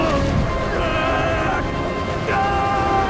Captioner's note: grunting; yelling; screaming